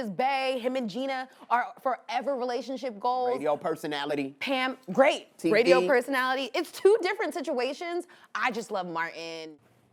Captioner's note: none